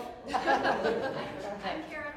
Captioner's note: laughter